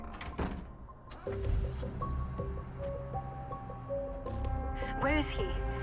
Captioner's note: engine revving